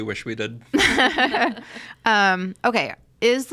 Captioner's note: laugh